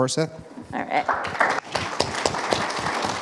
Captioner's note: audience applauding